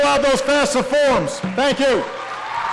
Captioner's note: applause